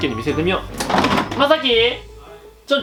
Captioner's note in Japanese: ドア音